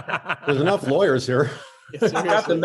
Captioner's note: laughs